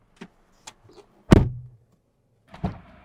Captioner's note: door Thud